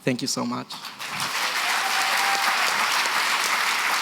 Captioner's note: applause, cheering